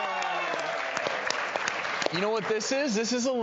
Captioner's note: crowd applauding